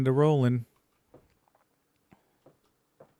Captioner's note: footsteps